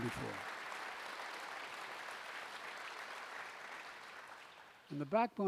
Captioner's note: applause